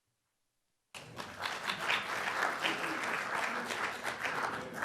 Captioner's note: applause